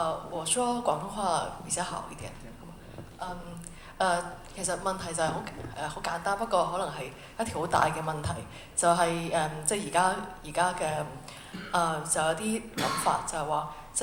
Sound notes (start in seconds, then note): 0.2 Mandarin; 4.5 Cantonese